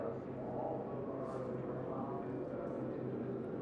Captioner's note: none